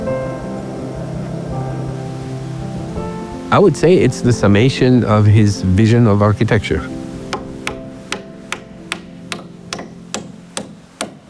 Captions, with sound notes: I would say it's the summation of his vision of architecture. [HAMMERING]